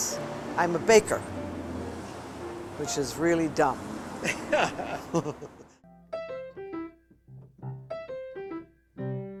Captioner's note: laughs